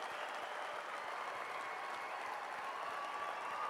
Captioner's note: cheers and applause